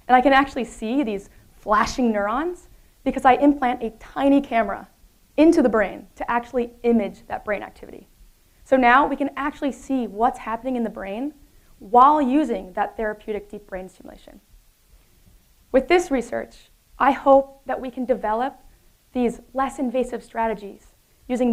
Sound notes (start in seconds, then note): none